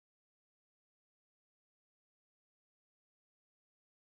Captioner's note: none